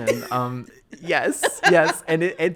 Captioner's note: laughing